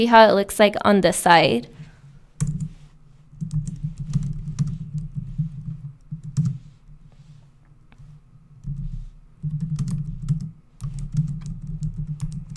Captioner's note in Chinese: 敲击键盘的声音